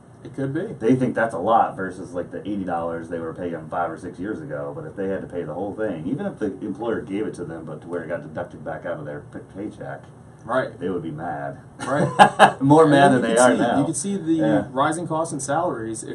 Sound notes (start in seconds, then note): 11.8 laughing